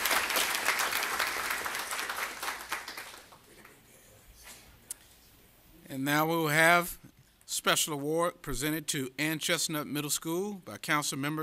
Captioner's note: applause